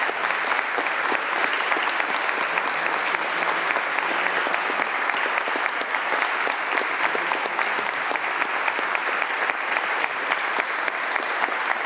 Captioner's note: applause